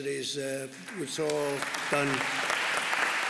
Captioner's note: applause